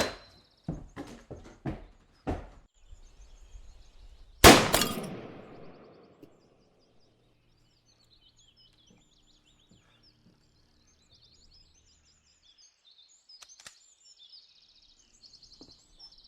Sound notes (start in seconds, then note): 0.6 hurried footsteps; 4.4 gunshot